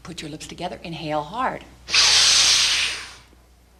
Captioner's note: breathing